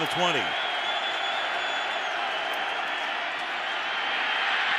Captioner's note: crowd cheers; crowd roars